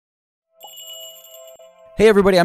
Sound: magical chiming

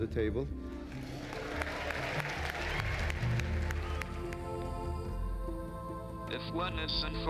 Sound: applause

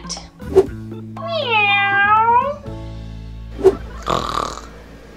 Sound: cat meows; snores

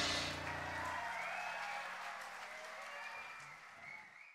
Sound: audience applauds

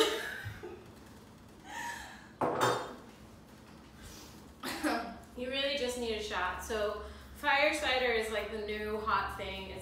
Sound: laughter

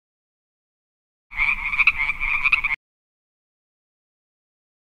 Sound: frog croaking

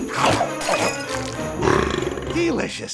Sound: belching

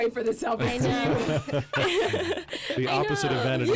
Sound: laughs

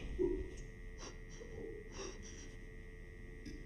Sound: breathes heavily

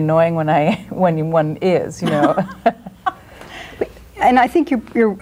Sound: laughs

